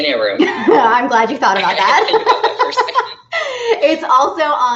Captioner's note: laughing